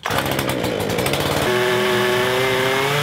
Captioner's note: chainsaw